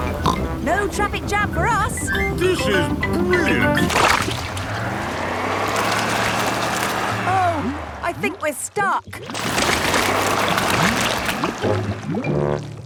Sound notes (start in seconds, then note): 4.5 sloshing, tires whirring; 9.7 whirring